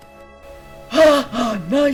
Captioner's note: laughs sarcastic